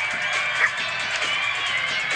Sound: pixie barks

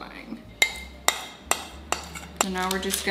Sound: spoon clanking

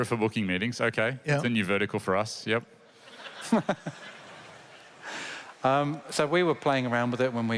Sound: laughter

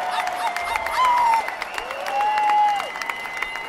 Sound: crowd cheering

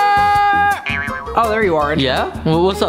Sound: boing

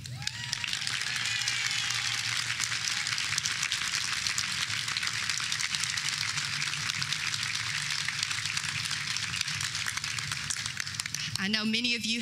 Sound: applause

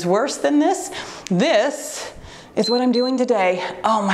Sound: timer beeps

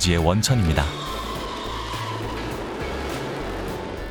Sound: the sound of fireworks

